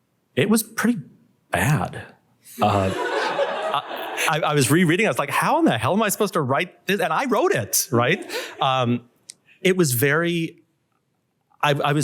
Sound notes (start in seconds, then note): 2.6 laughter